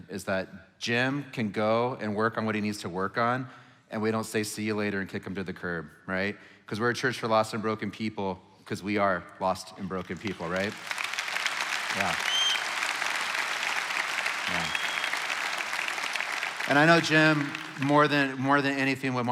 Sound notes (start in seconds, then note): 10.6 congregation applauding; 10.6 congregation cheering